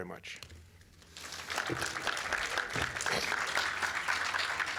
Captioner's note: applause